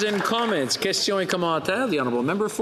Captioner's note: some Applause